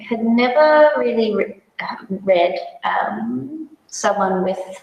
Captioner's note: none